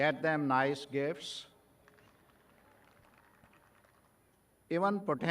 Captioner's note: graduates clapping